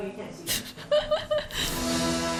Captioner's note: laughs